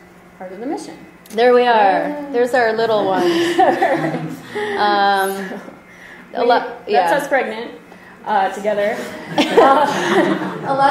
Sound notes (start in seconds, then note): 0.2 voiceover; 3.0 laughter; 7.2 voiceover; 9.0 laughter